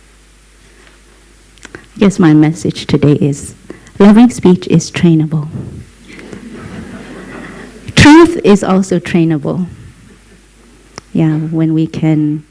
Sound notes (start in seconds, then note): 6.0 laughter